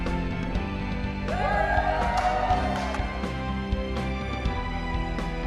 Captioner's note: crowd cheering